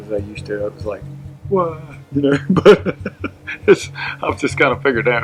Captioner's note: laughs